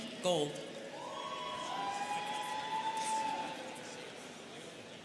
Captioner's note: students cheering